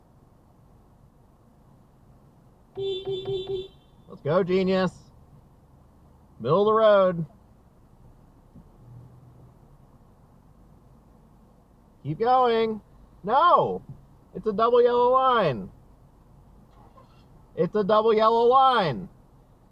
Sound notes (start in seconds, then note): 2.7 beepbeepbeep